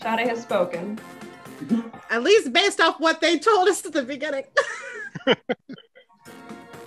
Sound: laughs

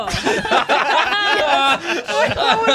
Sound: laughter

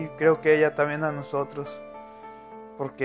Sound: speaking Spanish

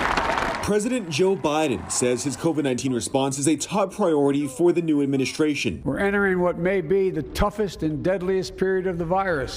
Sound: applause

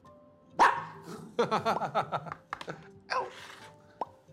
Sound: hahaha

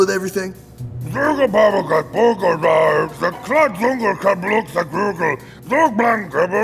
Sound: speaking in foreign language

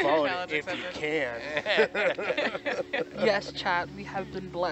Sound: divers giggling; divers laughing

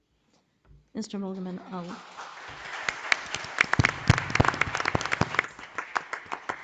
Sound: audience applauding

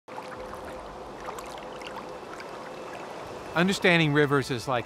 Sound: water splashing

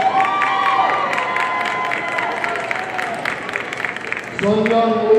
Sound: audience cheering and applauding

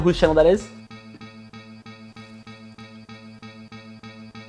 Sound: computer dinging

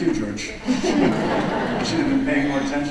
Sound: audience laughs

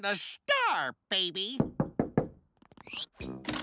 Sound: knocking

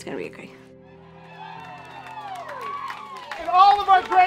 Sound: cheering and clapping

